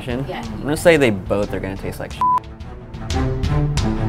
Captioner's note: beep; suspenseful music